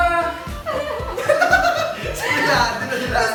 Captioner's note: laughing